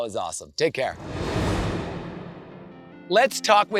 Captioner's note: transition whooshes